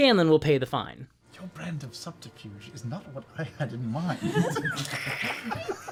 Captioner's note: whispers; laughter